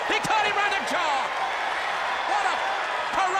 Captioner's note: audience cheers